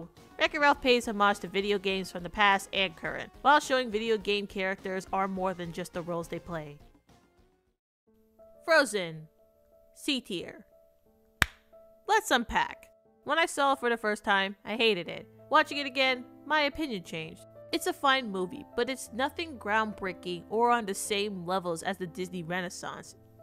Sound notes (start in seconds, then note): 11.4 clap